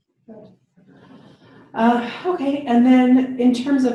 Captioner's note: sighs